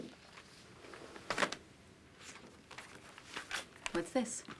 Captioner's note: folder thuds